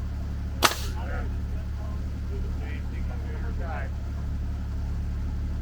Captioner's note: pneumatic hammer popping